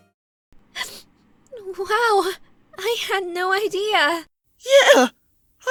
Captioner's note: sniff